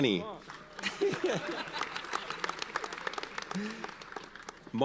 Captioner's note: audience applauds